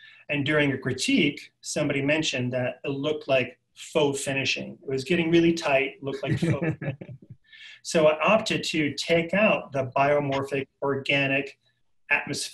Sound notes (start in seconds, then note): 6.1 laughing